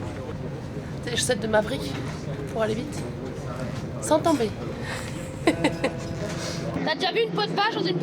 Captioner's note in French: rires